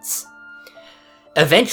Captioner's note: inhale